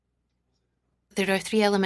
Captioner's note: speaking in French